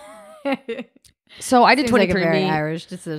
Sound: laughs

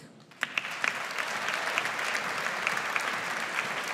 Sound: audience applauds

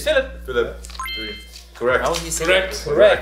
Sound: graphics tinkle

